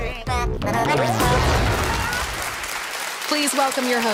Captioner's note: audience cheering and clapping